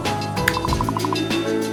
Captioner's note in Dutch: knipt in vingers